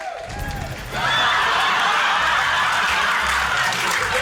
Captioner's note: rapturous laughter, applause